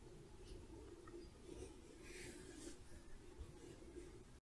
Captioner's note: gentle rubbing